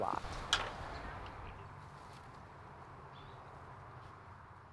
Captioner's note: wind whooshing